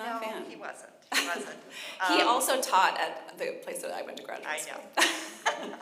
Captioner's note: laughs